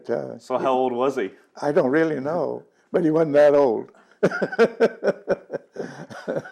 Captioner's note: laughing